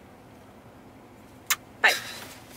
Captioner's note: kissing noise